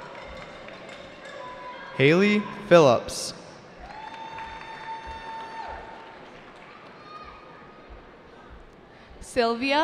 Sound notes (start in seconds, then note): 0.0 cheering; 3.7 cheering